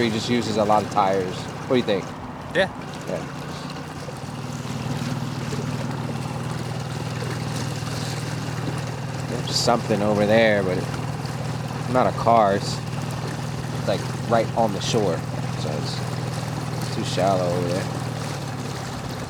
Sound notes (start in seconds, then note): 4.7 boat engine revving